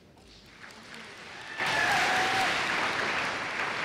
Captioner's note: applause